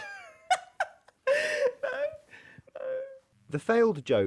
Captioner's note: chuckles